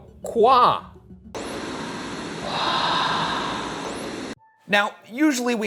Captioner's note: ghostly whispering; static hissing